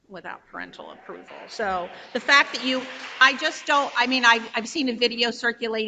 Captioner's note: audience applauds